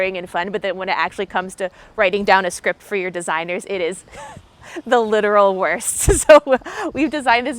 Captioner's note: laughs